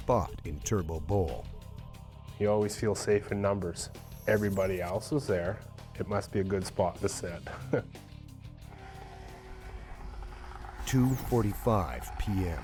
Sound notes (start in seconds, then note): 2.3 voiceover